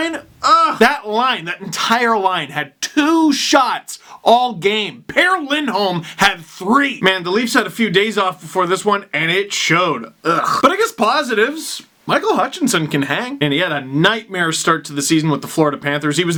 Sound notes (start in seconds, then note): 10.2 digusted noise